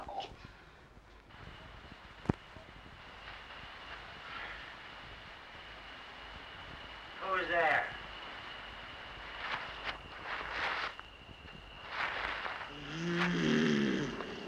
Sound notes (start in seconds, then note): 8.6 footsteps; 12.7 growling